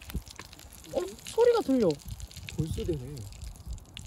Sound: the sound of raindrops

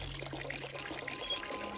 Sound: water pouring

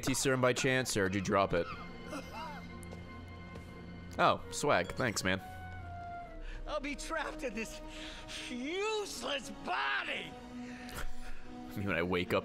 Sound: laughs

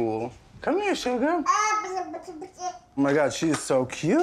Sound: cooing

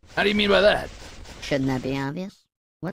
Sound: higher-pitched

